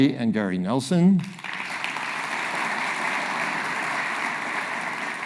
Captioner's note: audience applauding